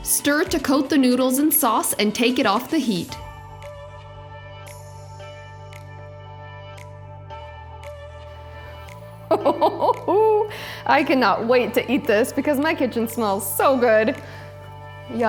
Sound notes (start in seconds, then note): 3.2 soft upbeat music; 9.4 laughs